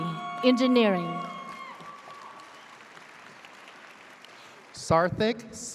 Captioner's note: audience cheers